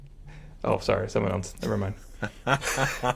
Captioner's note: laughing